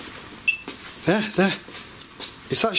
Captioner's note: beeping